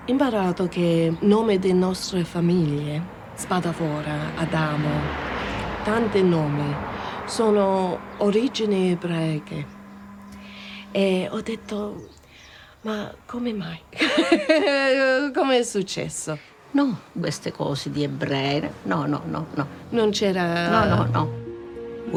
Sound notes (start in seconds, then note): 0.2 speaks in foreign language; 17.3 speaks in foreign language; 21.5 gentle music